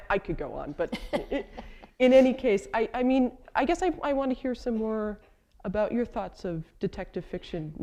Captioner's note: chuckle